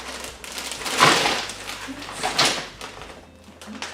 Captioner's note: bags rustle in tandem as fish clatters